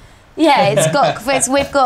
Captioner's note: laughing